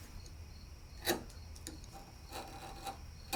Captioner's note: wood scraping